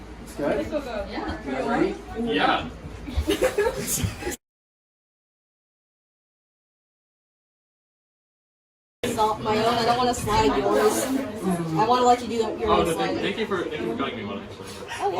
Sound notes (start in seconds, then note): 3.0 laughter